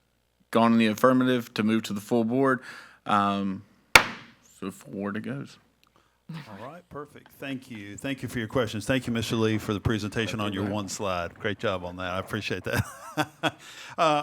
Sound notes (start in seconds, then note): 3.9 gavel clacks; 12.7 chuckles